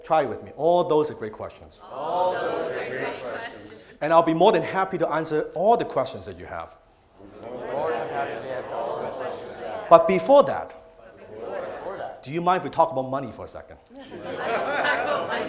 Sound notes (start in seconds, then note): 1.7 crowd; 7.1 crowd; 13.8 crowd; 13.9 laughing